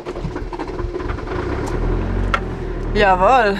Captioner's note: engine starts